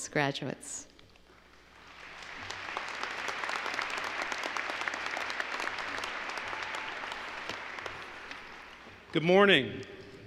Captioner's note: applause